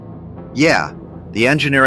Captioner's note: excited